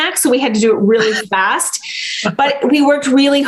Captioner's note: laughs